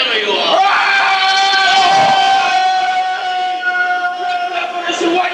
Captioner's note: threatening cry